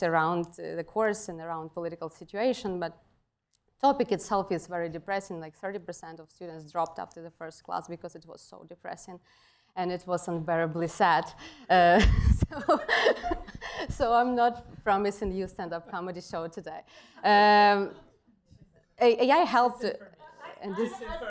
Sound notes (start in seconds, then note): 12.0 laughter